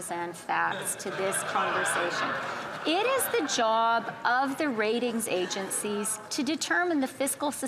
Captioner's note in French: voix de l'interprète